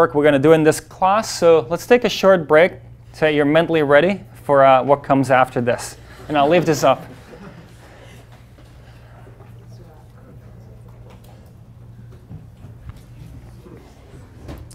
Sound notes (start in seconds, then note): 6.0 class laughs; 11.1 class chatter